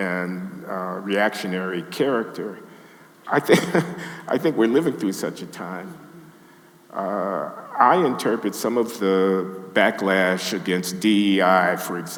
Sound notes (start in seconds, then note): 3.3 laughs